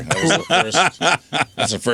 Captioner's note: laughing